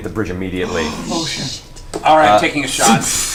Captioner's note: gasps